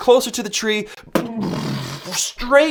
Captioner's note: mimics collision